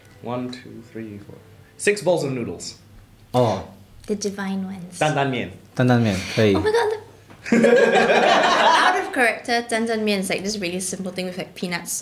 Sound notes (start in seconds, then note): 7.4 laughter